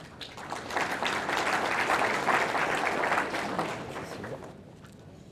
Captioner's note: audience applauding